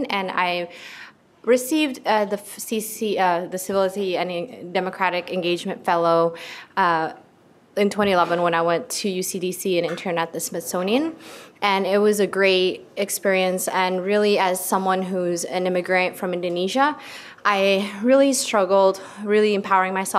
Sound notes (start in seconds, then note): none